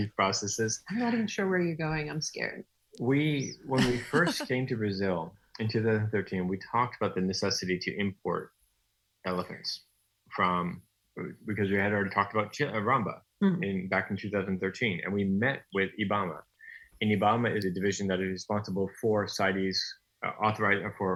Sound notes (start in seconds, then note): 3.7 nervously laughs